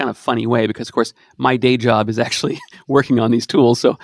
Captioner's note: snickers